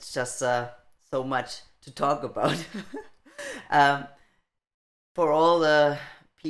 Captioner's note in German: laughing